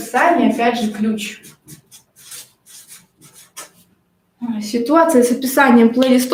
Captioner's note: scratching of a marker on the paper